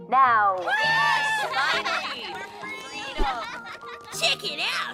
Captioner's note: children cheering